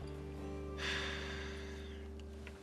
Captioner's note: sighs